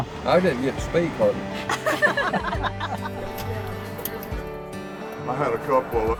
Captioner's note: laughter